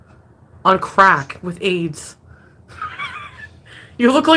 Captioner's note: laughs